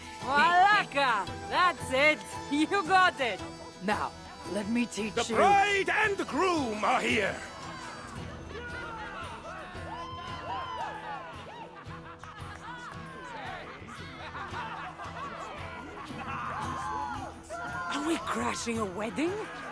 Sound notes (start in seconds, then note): 2.5 laughing